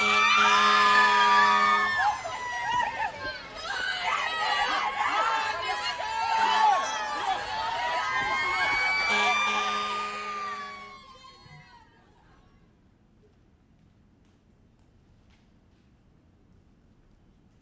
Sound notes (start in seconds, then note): 0.0 truck honks; 0.0 sirens blaring; 3.7 people continue screaming; 7.9 truck honks; 9.4 sirens blaring